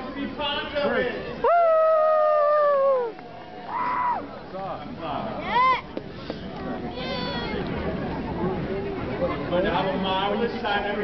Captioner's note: crowd cheers! Woo hoo! Yeah!